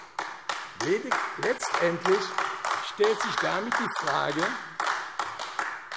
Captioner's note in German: Beifall AfD